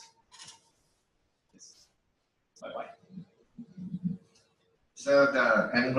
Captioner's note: pause